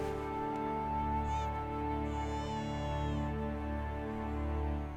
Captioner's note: baby crying